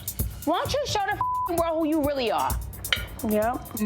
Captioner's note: beep